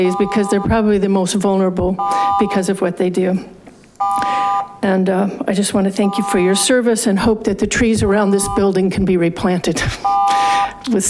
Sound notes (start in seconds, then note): 1.9 buzzer beeps; 4.0 buzzer beeps; 10.0 buzzer beeps